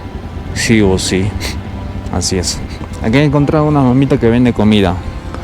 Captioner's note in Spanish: resoplido